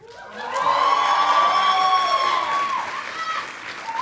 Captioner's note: audience applauding